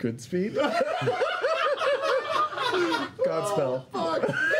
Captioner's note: laughter